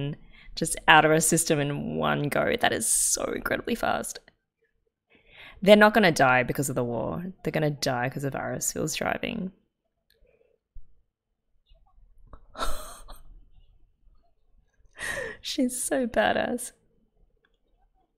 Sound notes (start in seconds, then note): 12.5 laughs